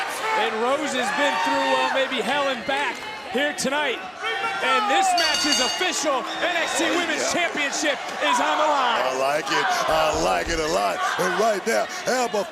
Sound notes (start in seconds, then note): 5.0 bell rings